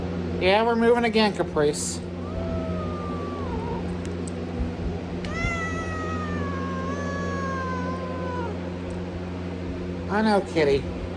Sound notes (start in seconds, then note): 2.0 Caprice growls and meows